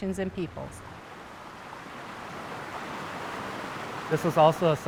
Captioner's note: water sloshing